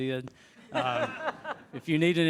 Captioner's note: attendees chuckle